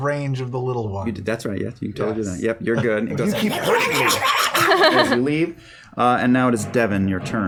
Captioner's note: yapping